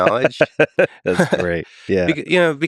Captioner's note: Lex laughing